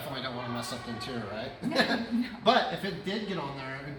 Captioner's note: laughs